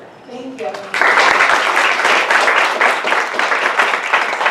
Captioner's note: applause